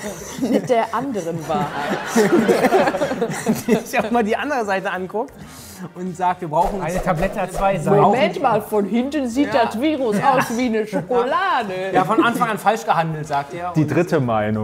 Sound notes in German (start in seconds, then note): 1.9 Lachen